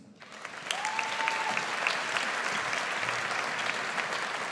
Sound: audience applauds

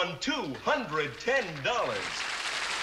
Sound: applause

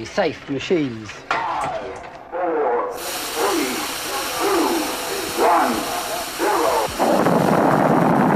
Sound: hissing; boom; roaring

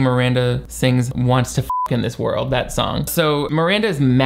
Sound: beep

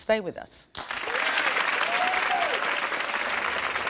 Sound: applauding

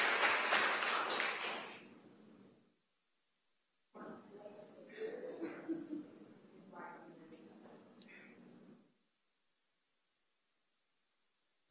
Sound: applause

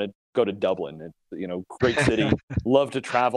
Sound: laughs

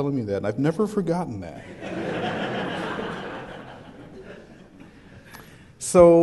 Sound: laughter

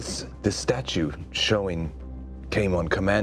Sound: none

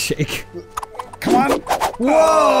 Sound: awesome back flip noise

